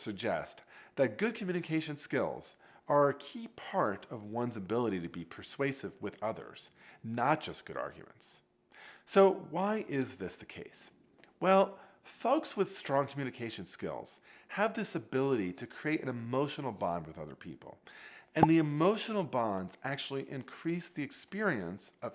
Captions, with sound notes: suggest that good communication skills are a key part of one's ability to be persuasive with others, not just good arguments. So, why is this the case? Well, folks with strong communication skills have this ability to create an emotional bond with other people. And the emotional bonds (bubble pops) actually increase the experience